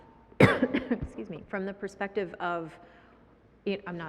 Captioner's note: coughs